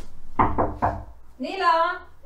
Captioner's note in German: anklopfen